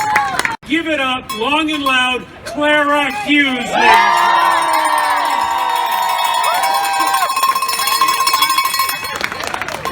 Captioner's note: applause and cheers